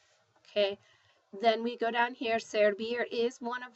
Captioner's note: spanish